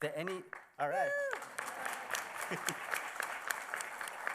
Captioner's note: applause